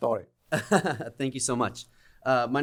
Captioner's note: laughter